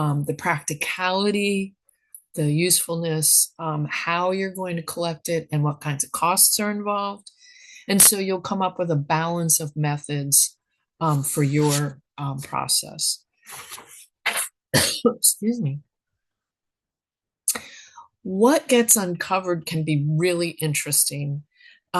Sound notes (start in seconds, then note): 14.7 coughs